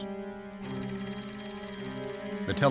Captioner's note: telephone ringing